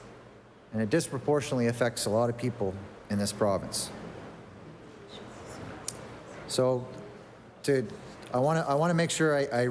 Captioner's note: none